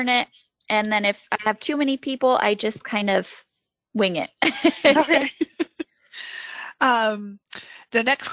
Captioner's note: laughs